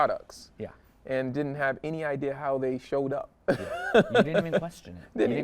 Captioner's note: laughs